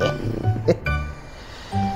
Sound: laughs

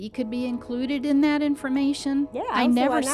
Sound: background train

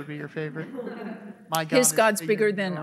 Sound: audience laughing

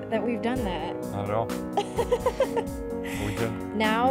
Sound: laughing

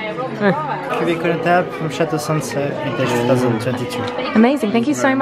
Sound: speaking foreign language

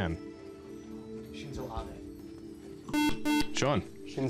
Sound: whispering

